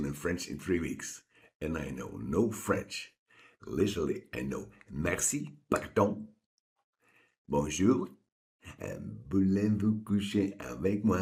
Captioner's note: French